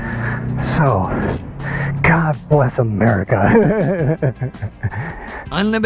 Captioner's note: laughs